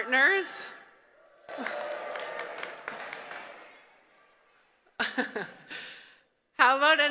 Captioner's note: applause, cheering